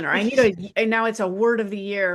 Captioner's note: laughs